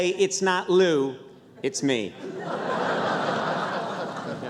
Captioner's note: laughter